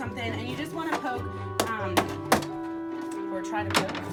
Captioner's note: plastic hitting